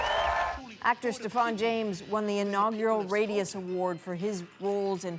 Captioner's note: cheers and Applause